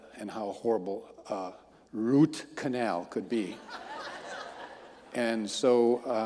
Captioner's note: audience laughing